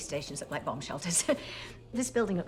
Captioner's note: chuckles